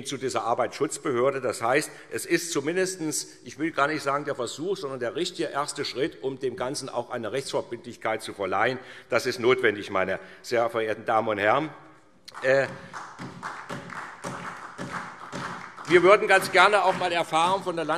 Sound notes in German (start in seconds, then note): 12.3 Beifall SPD